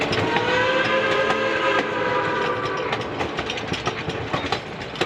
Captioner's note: train whistle blowing